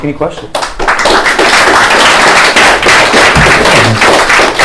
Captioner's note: applause